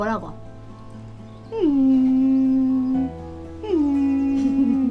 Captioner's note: Mimicking Laki whining